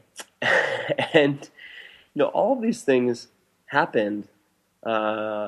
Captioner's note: laughs